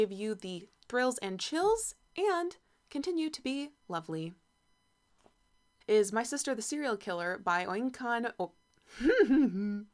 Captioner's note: giggles